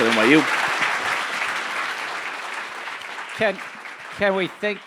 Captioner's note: audience applauding